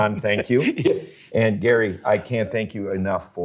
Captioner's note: laughs